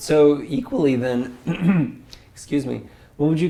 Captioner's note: cough